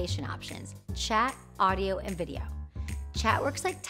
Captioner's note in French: conversation